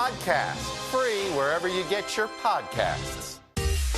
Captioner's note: none